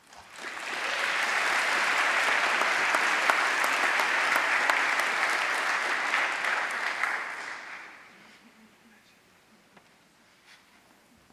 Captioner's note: applause